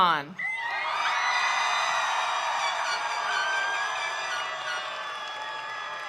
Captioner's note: attendees cheering; attendees applauding